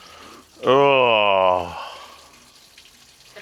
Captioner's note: groaning